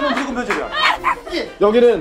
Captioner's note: cursing